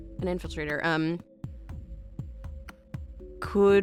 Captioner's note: none